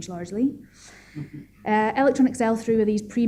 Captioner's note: chuckling